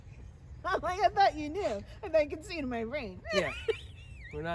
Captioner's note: laughs